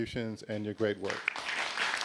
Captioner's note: applause